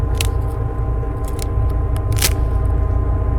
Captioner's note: branches snapping nearby